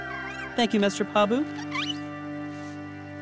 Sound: chittering

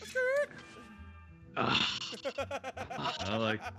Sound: laugh

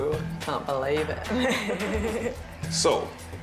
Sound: laughing

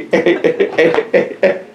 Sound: laughter

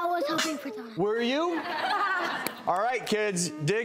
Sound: crowd laughing

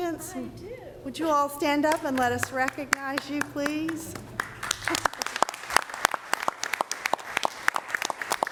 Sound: applause

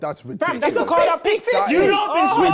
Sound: crowd mumbling

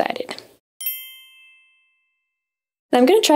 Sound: chime rings

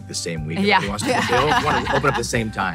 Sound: laughing

